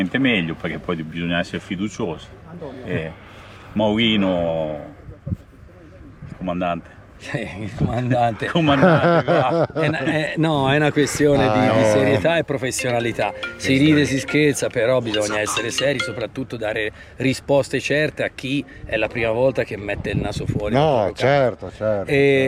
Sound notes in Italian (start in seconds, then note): 8.6 risate